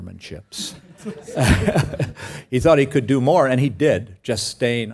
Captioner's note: laugh